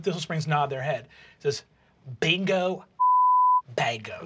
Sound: beeping

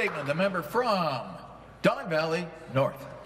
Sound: some Applause

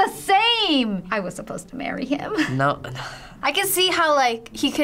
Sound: weary sigh

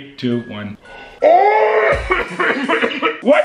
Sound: coughs

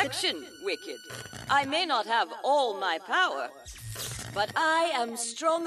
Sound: burst of static

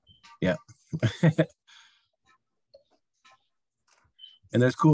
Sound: chuckles

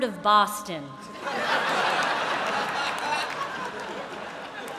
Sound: laughter

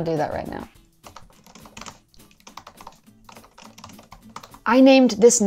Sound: keyboard clacking

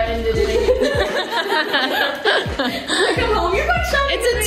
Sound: everyone laughs

